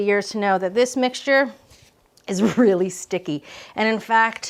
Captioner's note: laughing